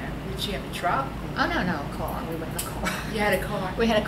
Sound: laughs

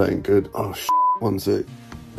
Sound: beep

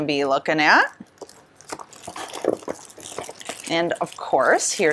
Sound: plastic wrapper rustles

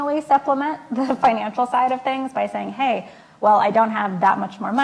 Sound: laughs

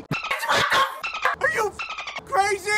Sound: woman yelling

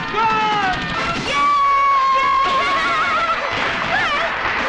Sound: hooting

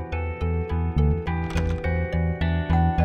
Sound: closet door opens; door bell rings

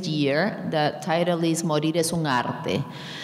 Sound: speaking in a foreign language

